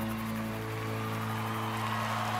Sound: cheering, applause

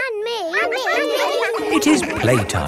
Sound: all laughing

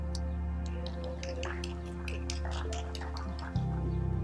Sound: applause

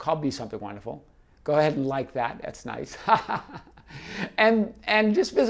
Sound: laughs

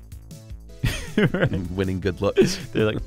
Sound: laughs

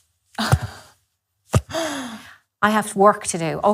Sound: knock-knock sound

